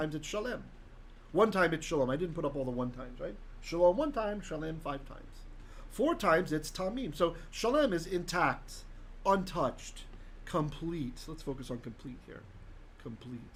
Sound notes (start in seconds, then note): 0.0 Hebrew; 6.6 Hebrew